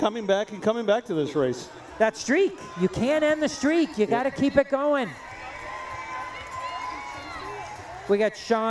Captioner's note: cheering